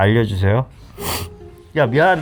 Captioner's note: sniff